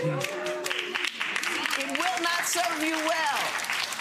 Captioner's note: clapping